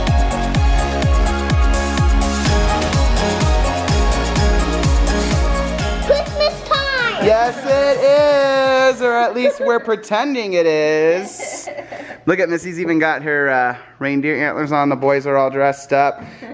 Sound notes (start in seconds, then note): 11.0 laughs